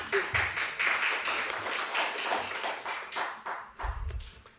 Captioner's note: applause